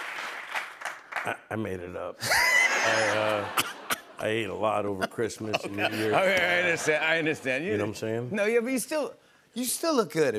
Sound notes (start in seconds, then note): 0.0 cheers and applause; 2.2 laughter